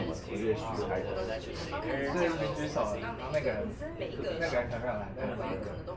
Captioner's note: speaking in foreign language